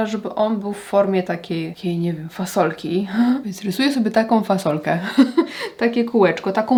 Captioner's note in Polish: śmiech